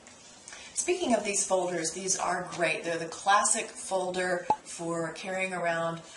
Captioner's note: pop